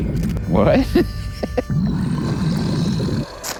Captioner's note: laughs